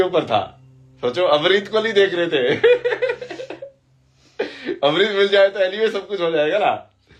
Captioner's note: हंसी